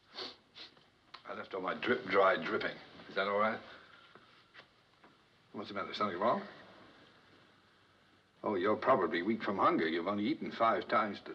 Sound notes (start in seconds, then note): none